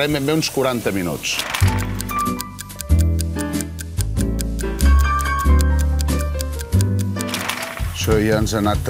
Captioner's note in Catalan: tic-tac